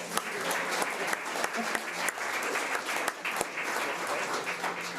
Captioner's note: audience applause